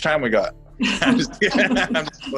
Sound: laughs

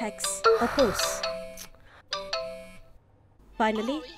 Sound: notification alarms

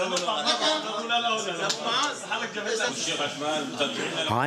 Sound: Arabic spoken audio

